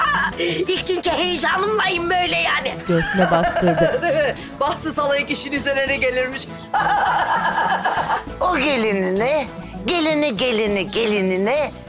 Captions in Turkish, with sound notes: İlk günkü heyecanımlayım böyle yani. (Gülme sesi) Değil mi? Bahtsız halayık işin üzerine gelirmiş. (Gülme sesi) O gelinine, gelini, gelini, gelinine...